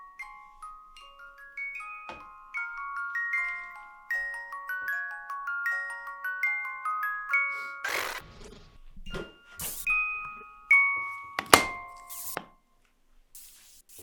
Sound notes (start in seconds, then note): 7.8 static whirring; 9.9 static crackles; 11.4 lid thuds